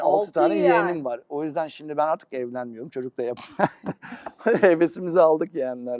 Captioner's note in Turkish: kahkaha